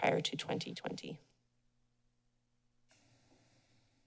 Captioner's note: silence